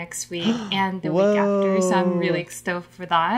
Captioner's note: gasps